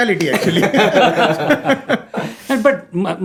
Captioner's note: laughter